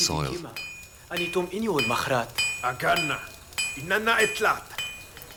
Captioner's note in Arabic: الصوت المنطوق البدوي